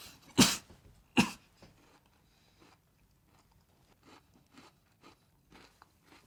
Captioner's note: cough